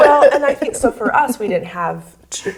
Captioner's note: all laugh